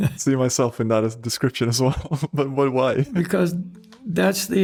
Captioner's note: laughs